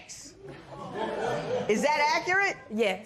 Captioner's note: spectators murmur